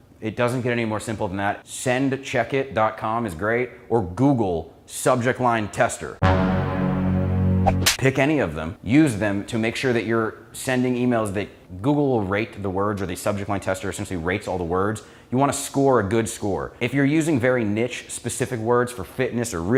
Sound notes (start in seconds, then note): 6.2 serious music; 7.7 clap sound